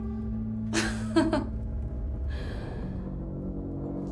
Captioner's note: Suzette laughs mockingly